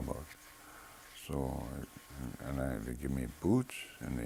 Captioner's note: none